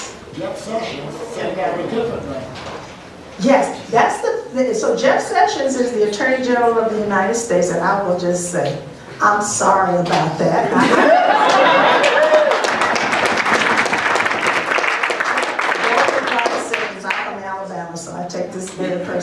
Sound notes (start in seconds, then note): 10.6 laughter; 11.8 applause